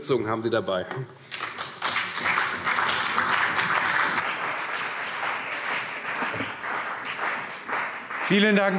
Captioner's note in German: Beifall CDU und BÜNDNIS 90/DIE GRÜNEN